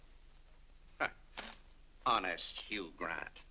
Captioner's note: scoffs